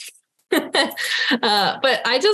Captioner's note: laughing